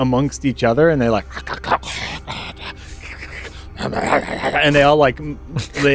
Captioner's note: more mouth noises